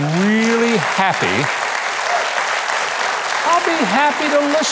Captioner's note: clapping and cheering